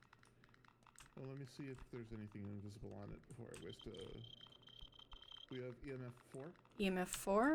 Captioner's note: EMF beeps